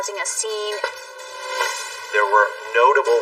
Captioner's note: pounding noises